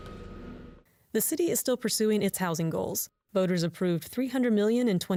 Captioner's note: voice-over